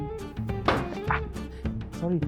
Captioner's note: smack